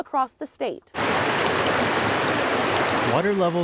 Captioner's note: water rushing